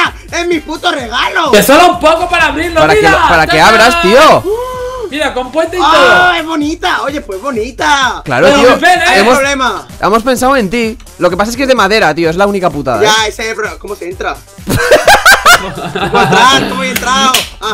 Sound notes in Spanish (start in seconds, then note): 14.6 risa de :v